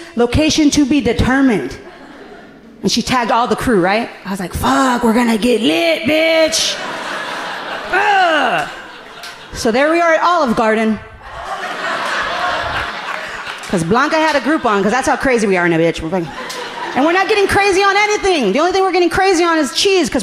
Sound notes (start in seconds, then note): 6.5 audience laughing amusingly; 8.4 growling excitedly; 11.2 audience laughing amusingly